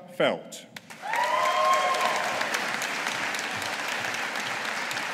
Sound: audience applauding

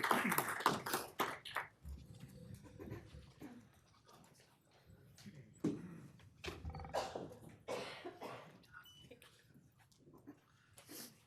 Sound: applause

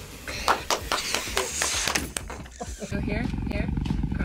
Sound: group laughs; React claps

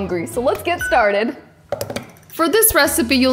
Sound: fingers tapping

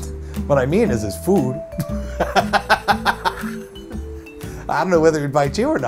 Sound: laughs

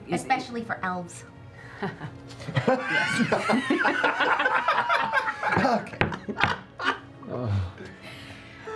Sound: laughter

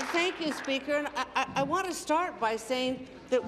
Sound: applause

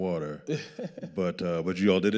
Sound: laughing

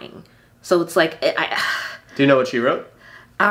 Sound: sighs

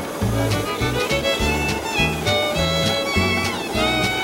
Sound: steam hissing

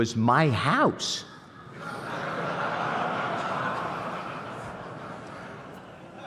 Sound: laughter

